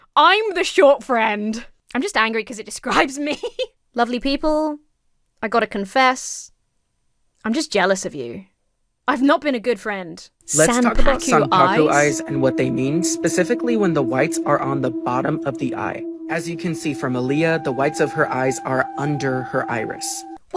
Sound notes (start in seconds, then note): 3.3 laughs